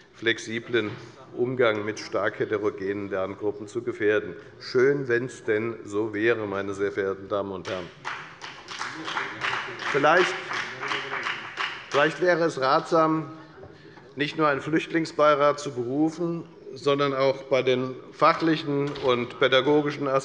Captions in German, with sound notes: flexiblen Umgang mit stark heterogenen Lerngruppen zu gefährden. Schön, wenn es denn so wäre, meine sehr verehrten Damen und Herren. (Beifall bei der FDP) Vielleicht wäre es ratsam, nicht nur einen Flüchtlingsbeirat zu berufen, sondern auch bei den fachlichen und pädagogischen